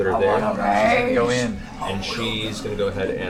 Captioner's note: Grog voice